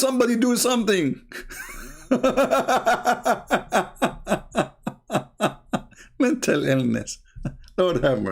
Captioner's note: Ketawa